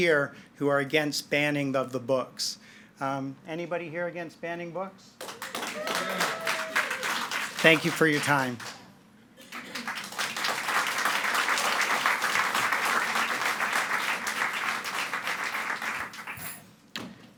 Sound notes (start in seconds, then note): 5.2 audience cheering and clapping; 9.4 audience clapping